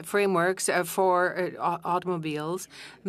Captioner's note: speaking French